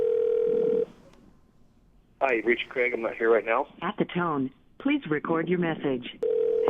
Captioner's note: phone dialing; voicemail; phone dialing